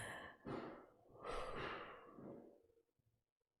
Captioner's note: breathes out